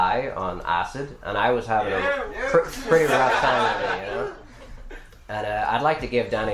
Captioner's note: yeoo *Laughter